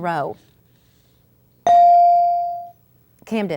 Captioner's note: ding